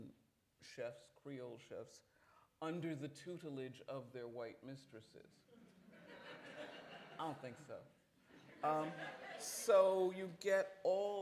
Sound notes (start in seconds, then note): 5.5 laughter; 8.6 laughter